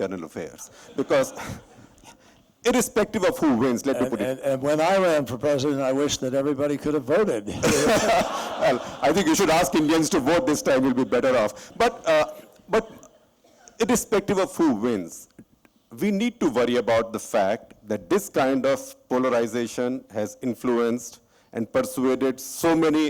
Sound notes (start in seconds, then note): 0.7 laughter; 7.4 laughter